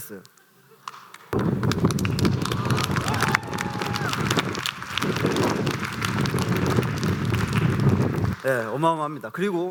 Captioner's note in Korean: 박수와 환호